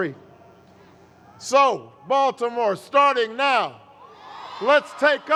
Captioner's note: cheers